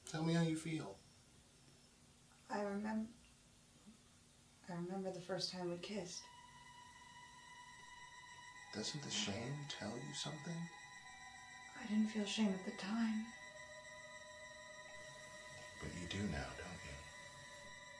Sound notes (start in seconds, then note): none